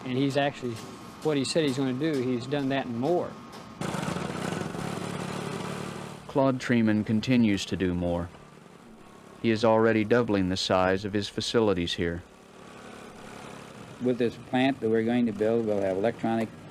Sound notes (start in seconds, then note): 6.4 voiceover